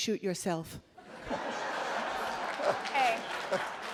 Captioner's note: laughing